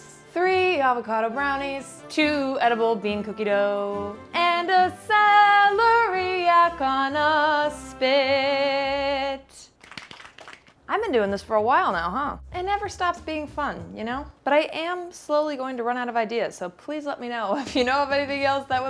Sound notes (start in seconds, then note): 9.8 claps